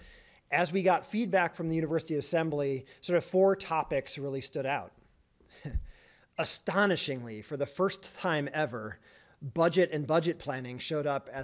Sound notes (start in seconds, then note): 5.3 chuckles